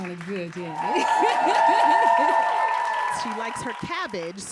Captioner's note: audience cheering; laughing